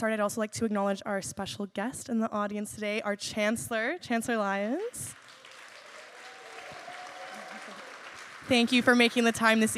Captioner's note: applause